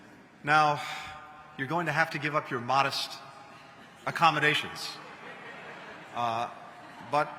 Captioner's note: laughter